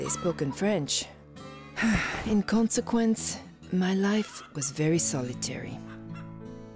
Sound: sighs

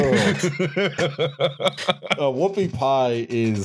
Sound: laughter

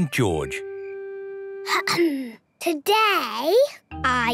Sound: clears throat

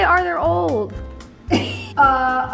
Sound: laughs

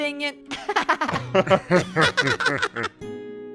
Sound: laughter

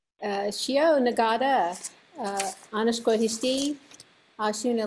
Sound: speaking in foreign language

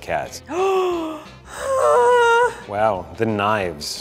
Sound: gasps

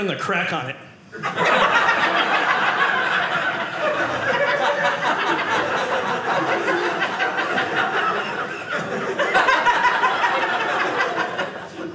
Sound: audience laughing

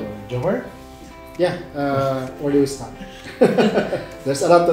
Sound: laughs

